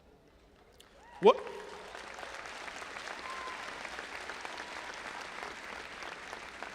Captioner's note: audience applauding and cheering